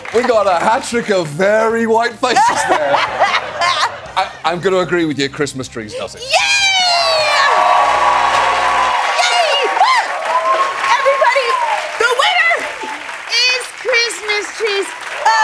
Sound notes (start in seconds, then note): 2.3 laughing; 7.6 cheering and applause; 9.8 laughing